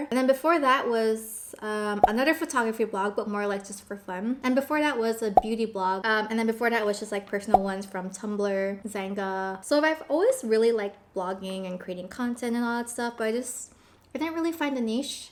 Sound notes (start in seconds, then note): none